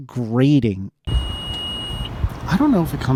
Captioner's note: grating beep